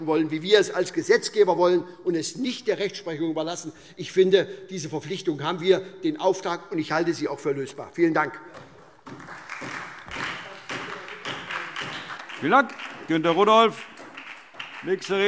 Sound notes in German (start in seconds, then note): 9.0 Beifall SPD